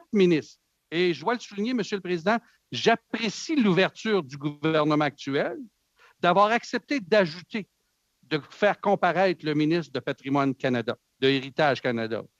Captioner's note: speaking French